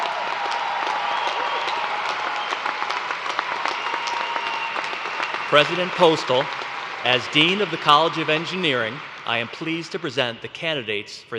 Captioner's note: cheers and applause